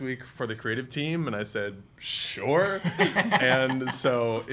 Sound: laughing

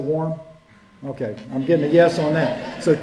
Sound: laughter

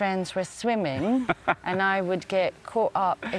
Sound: laughs

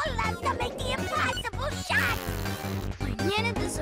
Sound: blows raspberry

